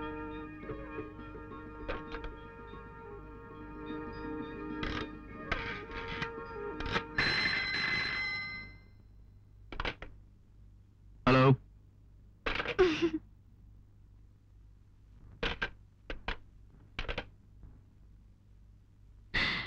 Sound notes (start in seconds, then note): 4.6 phone number dialing; 6.9 phone ringing